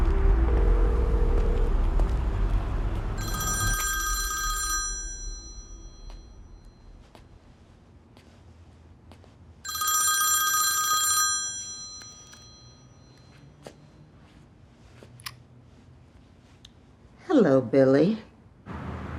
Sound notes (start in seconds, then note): 3.1 phone ringing